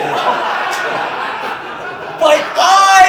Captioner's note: audience Laughing